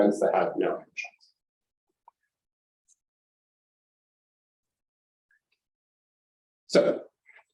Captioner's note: silence